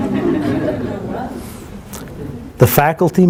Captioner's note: laughter